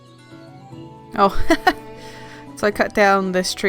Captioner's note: laughs